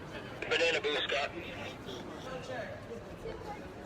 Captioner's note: police on radio